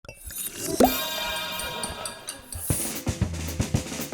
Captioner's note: glass chiming; jazzy music